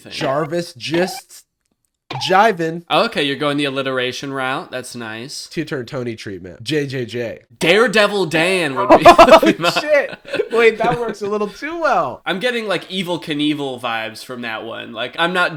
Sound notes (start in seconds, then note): 8.7 laughs